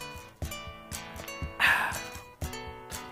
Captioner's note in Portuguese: exclamação de refrescância